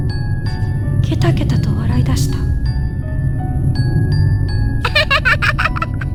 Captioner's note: she burst out laughing